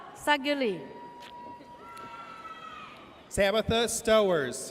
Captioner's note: audience cheers